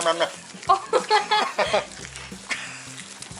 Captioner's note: laughter